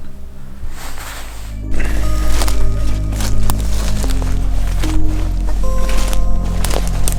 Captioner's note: leaves rustling; footsteps pattering